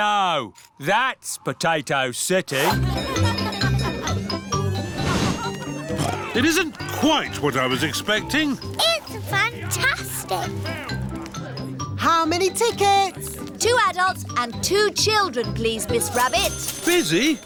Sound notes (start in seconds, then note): 2.6 cheerful jingling; 6.4 oinks